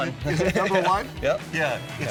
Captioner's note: laughing